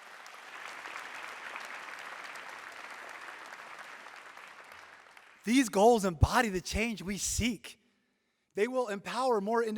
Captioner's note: applause